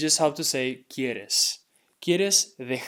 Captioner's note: speaking in Spanish